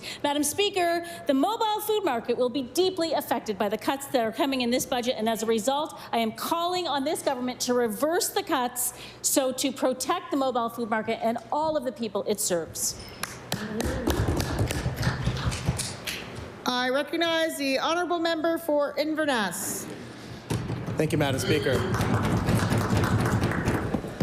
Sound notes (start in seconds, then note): 16.8 applause